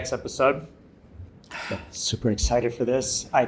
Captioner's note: heavy sigh